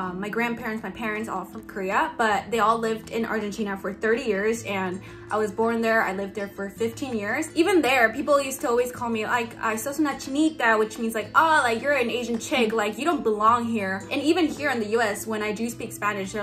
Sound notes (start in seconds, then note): 10.0 speaks in foreign language